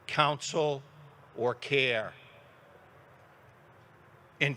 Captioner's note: none